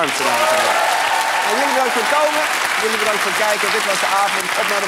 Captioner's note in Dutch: applaus